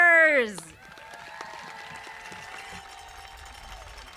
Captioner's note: audience applauding